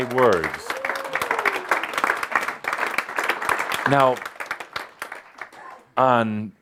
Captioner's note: audience applause as stands up